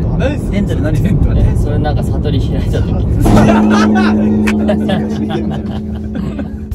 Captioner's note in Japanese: 大爆笑